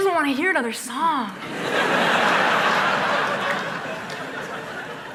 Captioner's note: applause